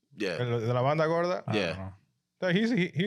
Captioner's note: speaking In Foreign Language